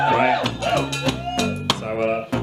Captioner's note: audience cheers